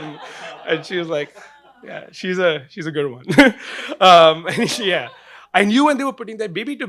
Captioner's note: laughing